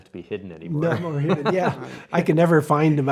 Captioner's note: laughing